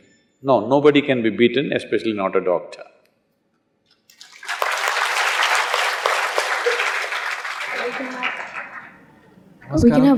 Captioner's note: applause